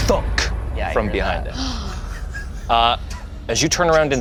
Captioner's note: gasps